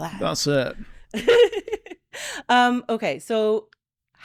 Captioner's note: laughing